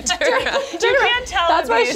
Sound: laughing

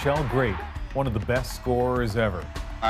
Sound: cheers and Applause

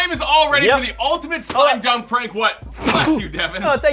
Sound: sneeze

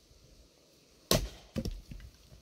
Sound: wood splitting

